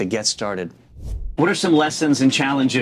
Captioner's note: air whooshing